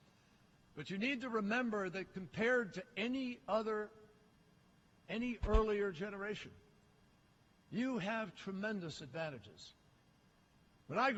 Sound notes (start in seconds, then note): none